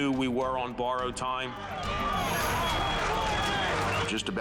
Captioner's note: firefighters yelling